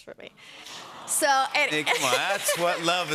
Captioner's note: audience awws